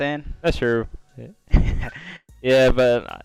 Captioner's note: laughs